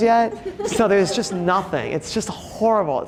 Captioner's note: audience laughing